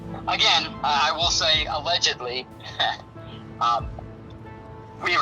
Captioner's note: laughs